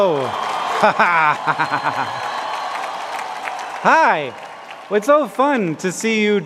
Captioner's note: laughing